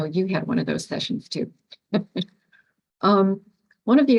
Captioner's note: laughs